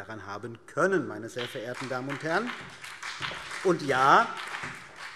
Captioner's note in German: Beifall BÜNDNIS 90/DIE GRÜNEN